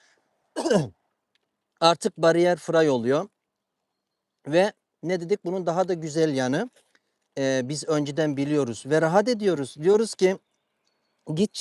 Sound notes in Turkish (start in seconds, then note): 0.5 boğazını temizler